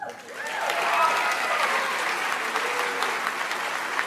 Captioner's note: audience applauds